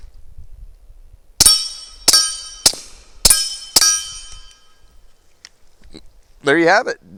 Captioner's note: gunshots